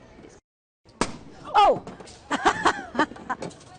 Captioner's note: popping noise